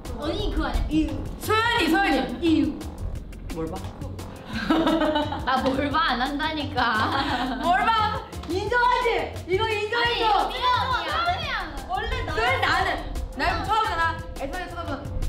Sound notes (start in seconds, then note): 0.1 speaks in Korean; 4.6 laughs; 4.6 speaks in Korean